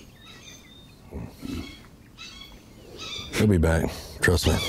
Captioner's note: bird warbling